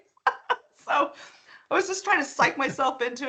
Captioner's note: laughing